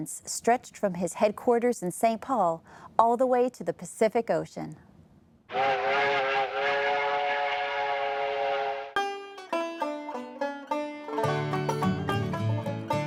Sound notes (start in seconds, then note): 5.5 train whistling; 8.9 banjo music playing